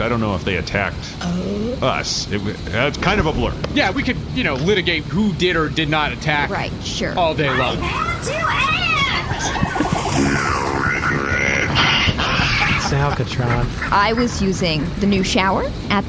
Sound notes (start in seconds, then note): 7.8 screaming; 9.0 all laughing